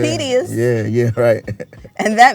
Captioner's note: laughs